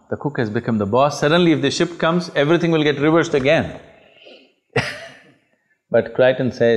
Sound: laughs

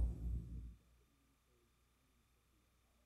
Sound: silence

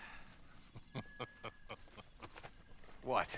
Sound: laughs

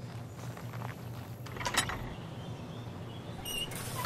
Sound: puerta al abrir

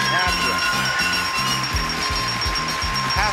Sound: crowd clapping

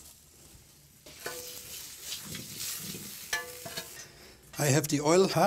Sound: sizzling

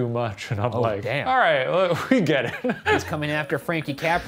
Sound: laughing

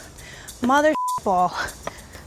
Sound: computer computer bleeps

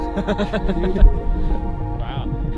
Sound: laughing

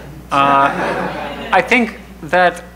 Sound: crowd laughing

